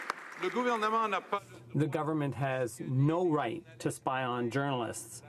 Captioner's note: some Applause